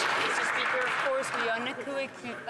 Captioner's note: some Applause